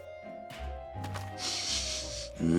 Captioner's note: sniffing